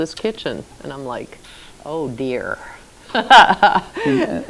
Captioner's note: laughs